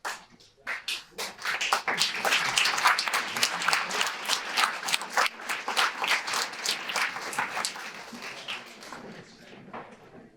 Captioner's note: audience applause